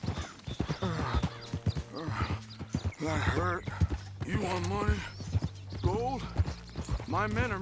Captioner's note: grunts